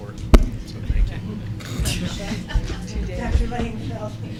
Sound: laughter

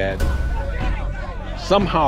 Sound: people shouting

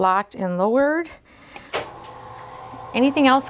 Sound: bed lowering

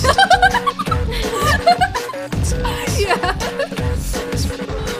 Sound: giggles

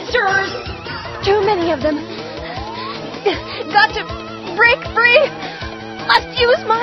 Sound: panting

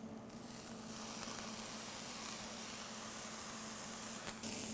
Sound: sizzling

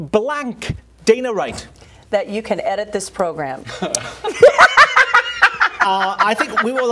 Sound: laughter

